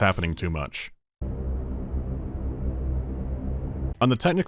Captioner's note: bwwwww